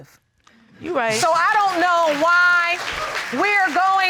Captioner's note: audience applaud